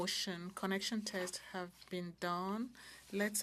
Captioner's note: speaking French